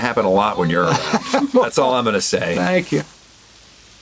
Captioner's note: Gilligan laughs